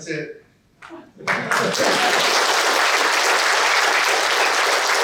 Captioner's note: laughter and applause